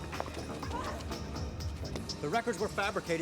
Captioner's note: Innocence shouts in frustration